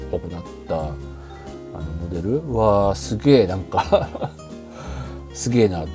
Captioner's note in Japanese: 笑い